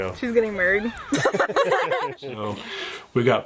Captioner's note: laughing